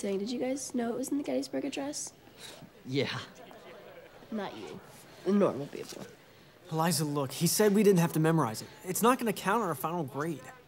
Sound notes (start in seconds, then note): 3.1 chuckles